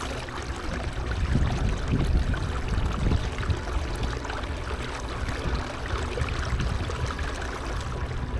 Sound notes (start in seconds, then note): 0.0 water lapping gently; 1.0 suspenseful music continues